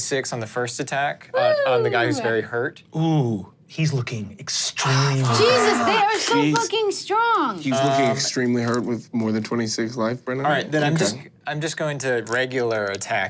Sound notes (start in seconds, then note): 1.3 cheers